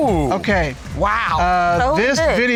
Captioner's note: exclaiming